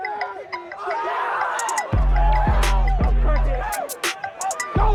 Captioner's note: audience cheers